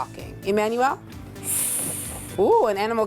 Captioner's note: hissing